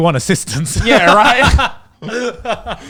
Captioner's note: laughs